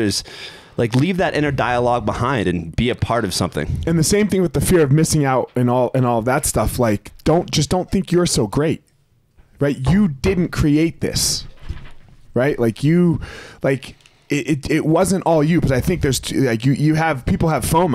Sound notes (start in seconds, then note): none